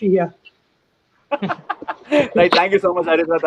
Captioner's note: laughs